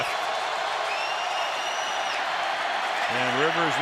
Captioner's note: crowd cheering